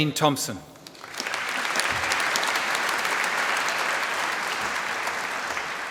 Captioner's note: applause